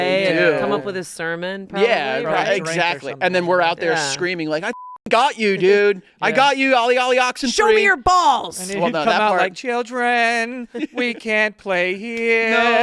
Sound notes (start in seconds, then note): 4.6 beep